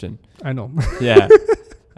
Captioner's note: laughs